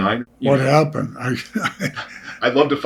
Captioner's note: laughing